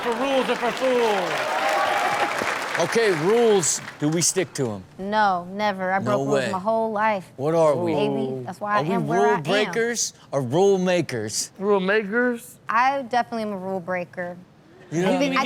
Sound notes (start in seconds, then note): 2.0 audience cheers